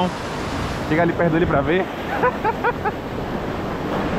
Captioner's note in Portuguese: risos